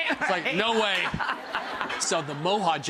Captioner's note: laughs; audience laughs